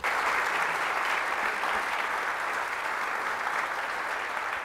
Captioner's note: applause